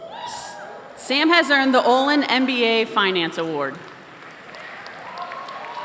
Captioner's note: applause